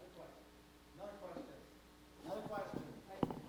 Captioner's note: emcee speaking